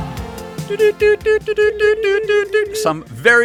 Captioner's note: morse Code noises